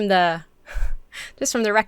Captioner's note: chuckles